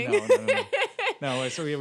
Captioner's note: laughing